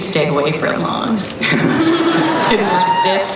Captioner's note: giggling